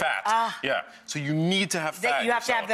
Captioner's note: sighs